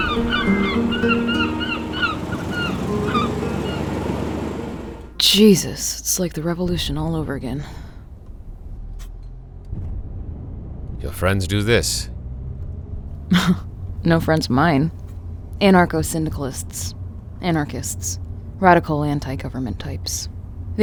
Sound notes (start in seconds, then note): 0.0 Distant explosions rock Chicago skyline; 0.0 car drives; 7.7 Distant gunfire and explosions in Chicago; 13.3 Emily chuckles